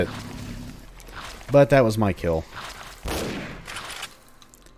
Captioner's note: bam